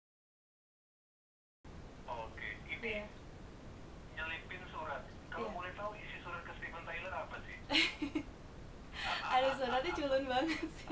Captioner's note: both laughing; laughing